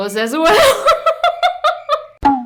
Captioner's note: laughs in regret